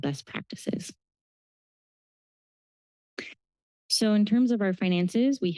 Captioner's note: pause